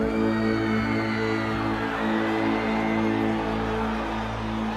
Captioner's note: crowd Cheering